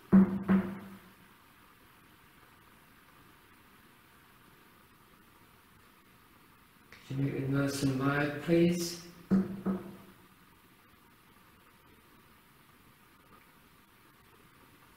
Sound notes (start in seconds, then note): 0.0 something knocking; 9.3 something knocking